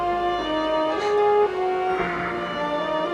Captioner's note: chuckles; dramatic music playing